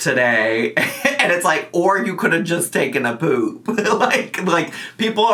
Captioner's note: laughs